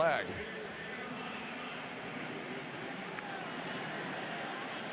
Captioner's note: pa announcement